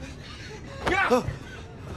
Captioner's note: sounds of people panicking; gasping in shock